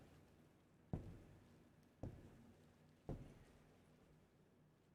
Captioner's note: footsteps padding